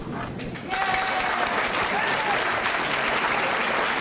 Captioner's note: applause